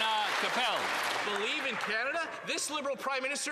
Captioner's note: applause